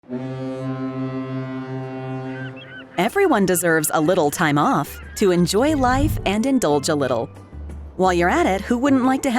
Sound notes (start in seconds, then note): 0.0 cruise ship honking